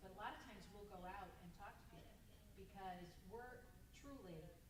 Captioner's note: none